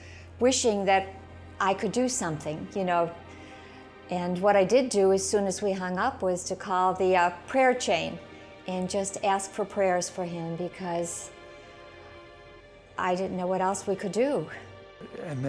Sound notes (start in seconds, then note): none